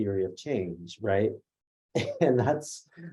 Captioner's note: laughs